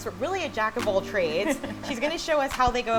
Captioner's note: laughs